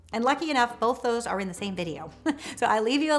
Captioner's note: chuckles